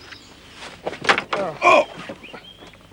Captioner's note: grunts